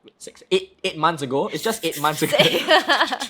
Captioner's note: whispering numbers to himself; mockingly whispers numbers; both laugh